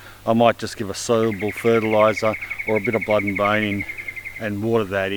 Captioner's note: murmurs